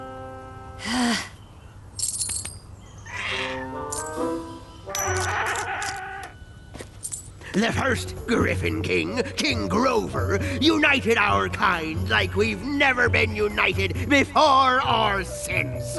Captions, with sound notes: [sigh] [clinking coins] The first griffon king, King Grover, united our kind like we've never been united before or since.